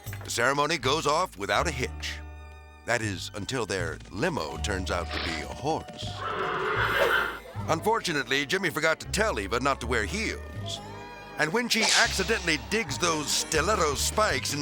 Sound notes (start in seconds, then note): 6.0 horse whinnies